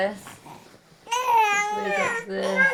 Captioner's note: baby crying